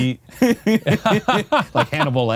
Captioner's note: both laughing